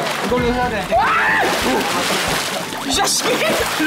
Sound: haha

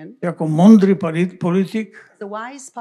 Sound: foreign language

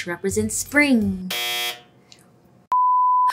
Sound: buzzer buzzing

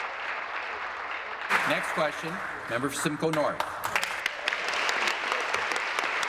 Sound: applause

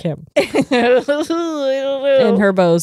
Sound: laughs

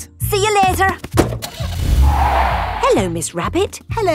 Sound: car starting; tires screeching

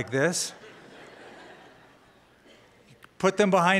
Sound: laughter

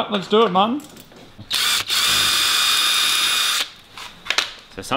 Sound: battery-powered drill

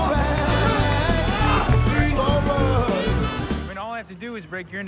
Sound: cheering

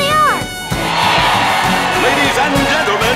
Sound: cheering

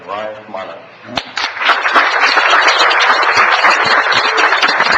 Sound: audience clapping

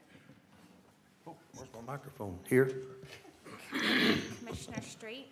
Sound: throat clearing

